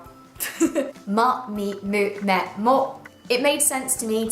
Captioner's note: laughter